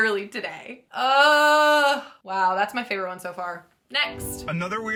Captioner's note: groans